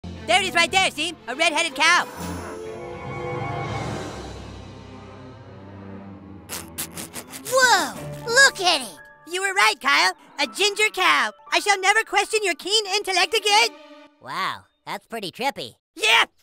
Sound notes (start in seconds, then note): 6.5 suppressed laughter